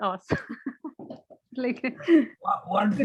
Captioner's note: chuckles